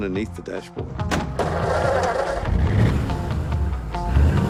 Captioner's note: engine roars to life